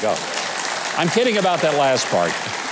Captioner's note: audience clapping